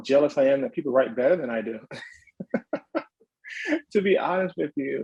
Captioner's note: chuckles